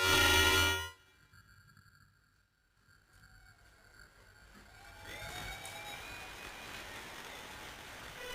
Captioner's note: applause, cheering